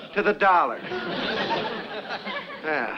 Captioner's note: audience laughs